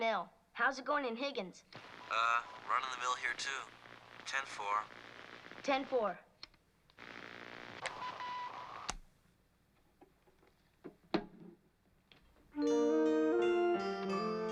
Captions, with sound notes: Run-of-the-mill. How's it going in Higgins? Uh, run-of-the-mill here too. 10-4. 10-4. [ Switches Click Off ]